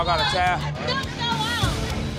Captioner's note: shouting